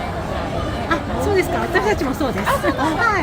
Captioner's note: laughs